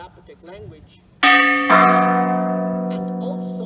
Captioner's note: church bell rings